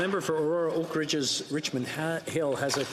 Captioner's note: some Applause